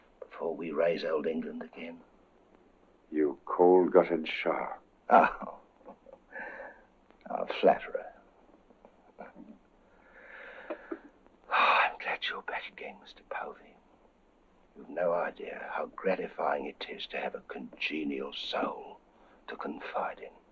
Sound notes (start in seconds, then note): 5.0 chuckles; 9.9 exhales